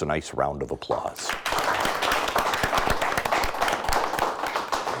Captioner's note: audience clapping